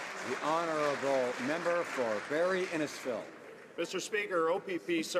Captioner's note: some Applause